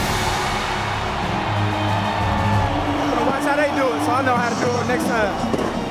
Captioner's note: crowd cheers